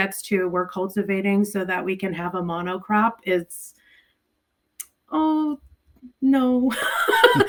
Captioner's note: laughs